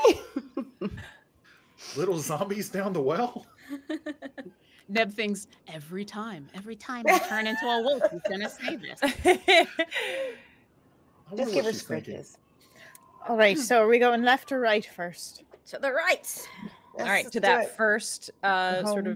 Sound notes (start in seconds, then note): 3.6 Hope laughing